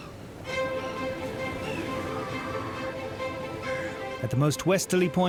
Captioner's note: dramatic music; birds chirping